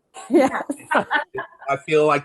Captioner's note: panelists laughs